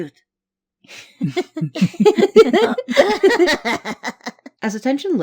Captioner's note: laughter